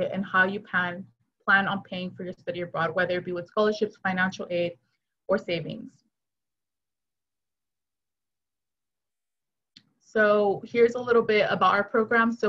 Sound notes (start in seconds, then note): 6.6 silence